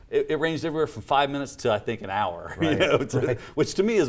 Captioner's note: laughs